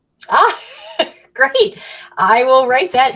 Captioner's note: chuckles